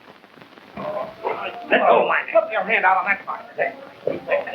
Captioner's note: all chattering